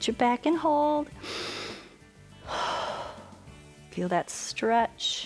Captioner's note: inhales and exhales